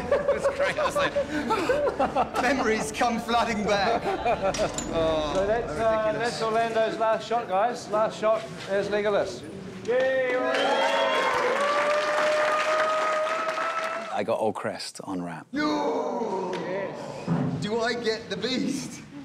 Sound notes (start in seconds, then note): 12.1 all cheering